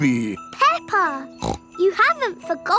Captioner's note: snorts